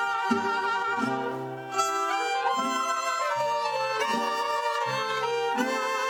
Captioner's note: none